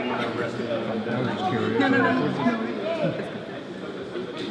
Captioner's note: people chattering